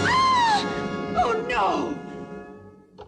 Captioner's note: screaming